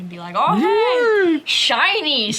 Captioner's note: exclaims